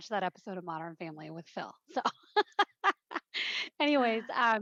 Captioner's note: laugh